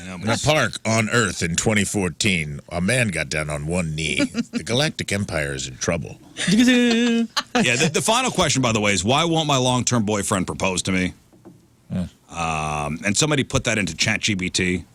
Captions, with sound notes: The park on Earth in 2014, a man got down on one knee, the Galactic Empire's in trouble. (Laughing) Yeah, the final question, by the way, is why won't my long-term boyfriend propose to me? And somebody put that into chat GBT.